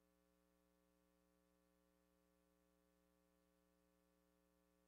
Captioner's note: none